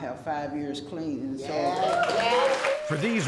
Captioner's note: cheering and applause